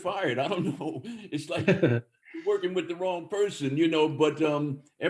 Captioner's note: laughter